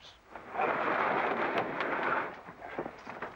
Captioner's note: boxes sliding